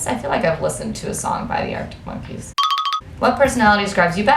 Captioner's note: cartoon trill sound effect